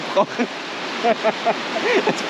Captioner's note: laughs